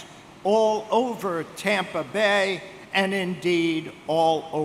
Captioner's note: none